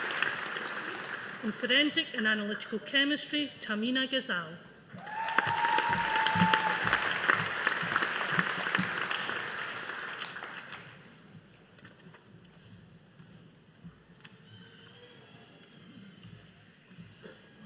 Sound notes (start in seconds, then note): 4.9 audience applauding